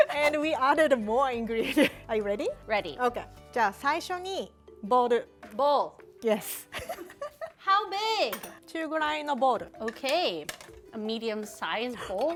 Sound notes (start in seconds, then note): 3.8 speaking Japanese; 6.6 giggles; 8.7 speaking Japanese